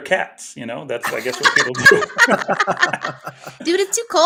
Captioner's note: everybody laughing